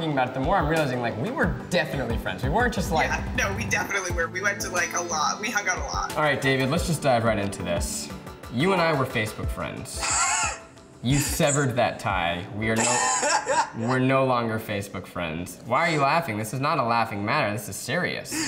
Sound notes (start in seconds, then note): 10.1 laughs; 12.8 laughs